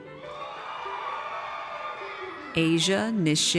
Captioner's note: audience cheers